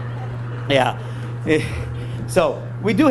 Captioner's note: exhales